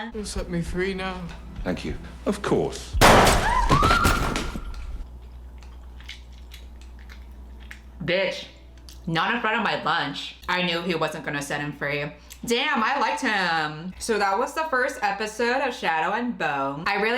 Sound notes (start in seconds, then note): 3.0 gunshot; 3.4 woman screams; 5.1 chewing suspensefully